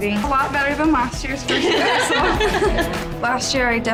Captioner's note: cheerleaders laughing